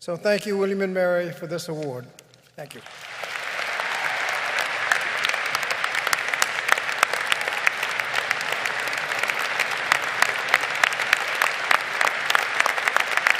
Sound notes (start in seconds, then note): 2.6 audience applaud